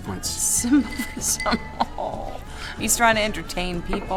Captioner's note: laughing